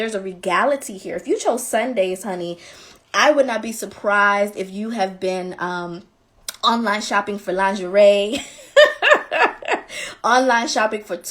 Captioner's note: laughing